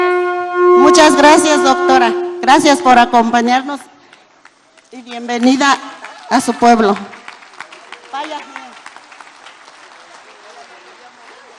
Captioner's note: applause